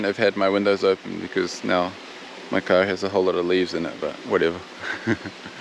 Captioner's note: laughs